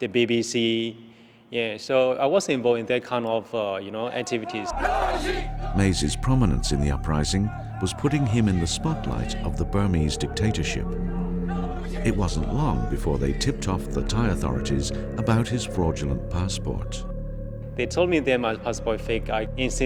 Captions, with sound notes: (protesters chanting) - [Voiceover] Maesie's prominence in the uprising was putting him in the spotlight of the Burmese dictatorship. (dramatic ambient music) It wasn't long before they tipped off the Thai authorities about his fraudulent passport. (ominous ambient music)